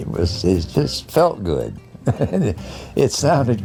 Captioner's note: chuckles